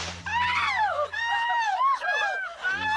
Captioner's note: screams